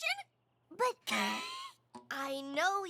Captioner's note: coughs